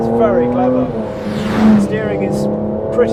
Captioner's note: car zooming